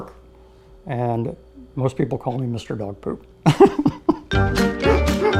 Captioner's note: upbeat music; laughing